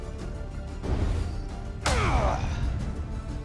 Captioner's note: grunting